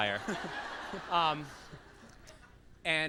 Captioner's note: laughs